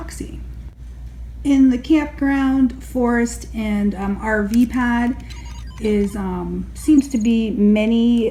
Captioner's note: arcade pinball noises